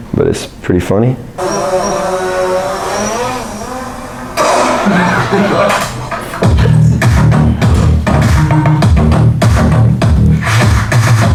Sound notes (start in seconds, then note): 1.3 rotors whirring; 4.7 drone crashing; 5.7 audience laughs; 7.1 techno music